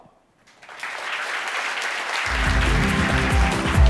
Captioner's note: applause